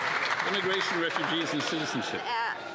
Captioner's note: some Applause